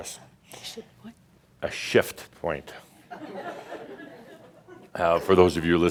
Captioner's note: some chuckles